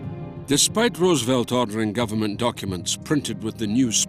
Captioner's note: Voz en off